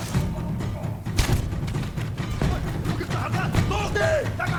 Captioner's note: gun firing; dramatic music; gun firing; speaking foreign language